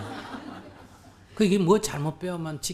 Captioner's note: audience Laughter